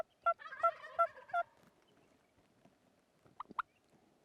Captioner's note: turkey calling